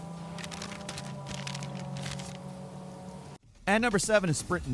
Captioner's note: paper crinkling